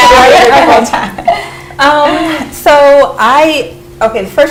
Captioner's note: laughter